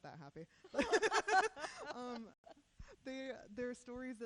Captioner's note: laughing